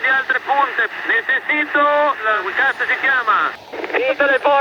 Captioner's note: speaking spanish